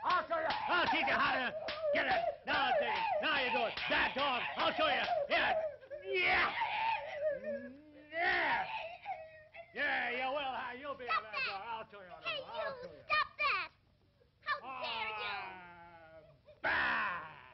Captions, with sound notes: I'll show you. I'll teach you how to be... now you see... bad dog... (Grunts) (Dog Yelping) Stop that. Hey, you, stop that. How dare you? Bah.